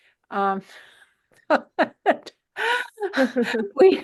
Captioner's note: chuckling